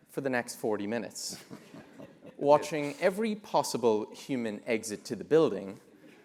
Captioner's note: laugh